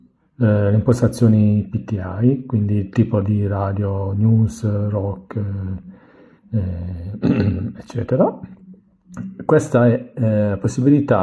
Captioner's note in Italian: schiarire la voce